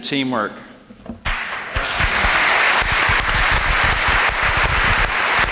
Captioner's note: applause